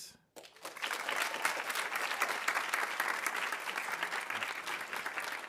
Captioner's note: audience applauding